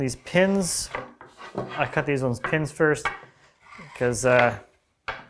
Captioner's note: plank on desk clunking